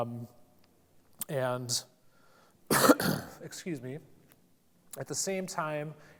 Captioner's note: coughs